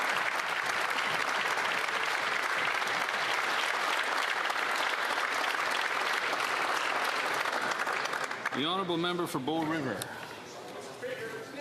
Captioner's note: applause